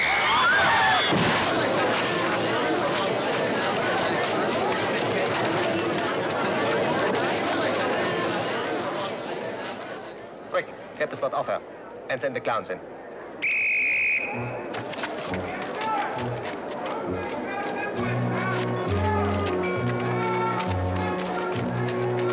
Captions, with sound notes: (woman screams) (audience gasps) - Quick, get the spot off her, and send the clowns in. (whistle shrills) (slow waltz-like circus music)